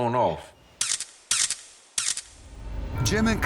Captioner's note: camera clicking